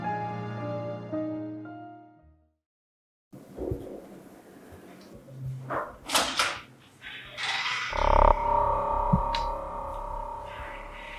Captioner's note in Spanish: gemido